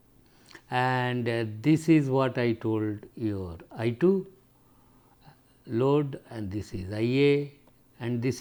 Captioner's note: low voltage